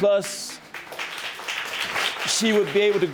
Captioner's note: audience applauding